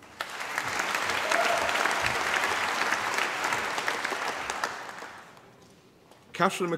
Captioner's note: applause